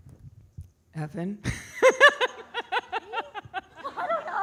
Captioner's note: laughing